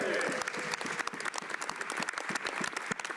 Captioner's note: speaking French